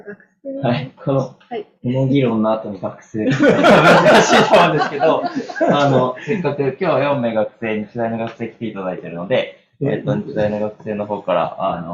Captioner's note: laughs